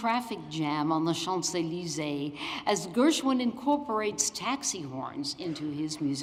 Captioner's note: french